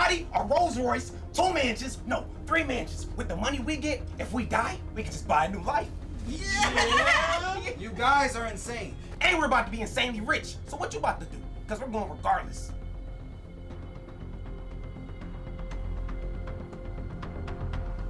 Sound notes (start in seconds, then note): 6.2 laughing; 14.8 anticipatory music